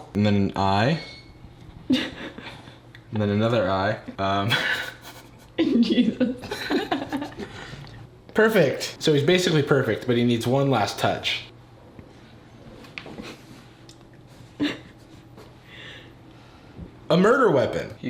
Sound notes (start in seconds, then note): 4.4 people laughing